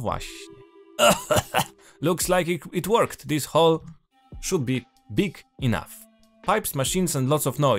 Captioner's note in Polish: kaszle